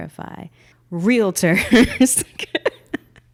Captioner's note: laughing